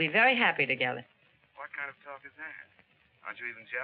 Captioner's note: on phone